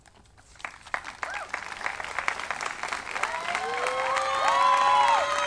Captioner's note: audience applauding